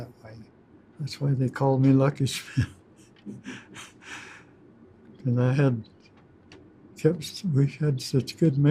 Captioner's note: laughs